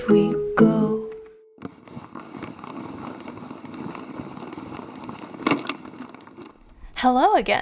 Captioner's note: music box winging up sound effect